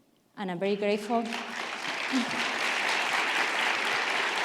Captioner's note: audience applauding